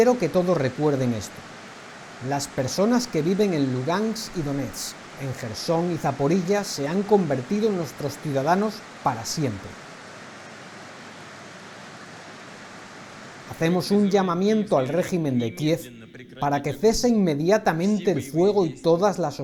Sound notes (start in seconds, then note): 12.0 applause